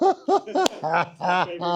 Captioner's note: laughing